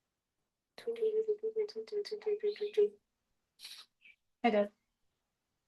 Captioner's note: tweets like birds outside